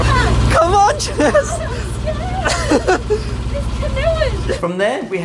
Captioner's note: laughing